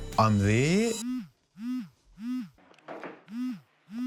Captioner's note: cell phone vibrates